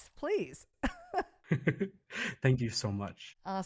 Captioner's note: both laughing